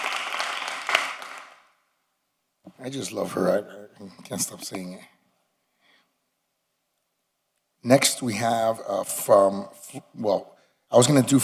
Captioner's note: applause